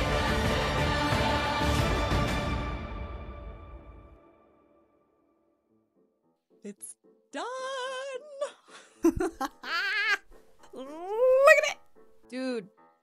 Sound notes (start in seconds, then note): 9.0 maniacal laughter